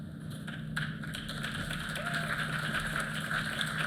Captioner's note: applause